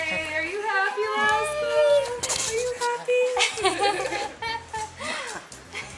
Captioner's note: laughter